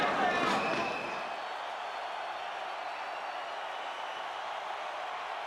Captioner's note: spectators cheering